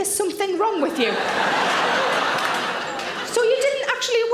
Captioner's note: audience laughing